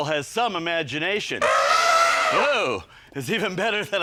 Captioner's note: elephant trumpeting